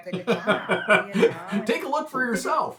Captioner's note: laughing